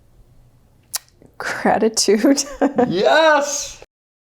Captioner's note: laughs